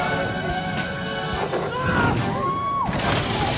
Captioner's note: Mr. Inferno yells; onlooker cheers; bike clatters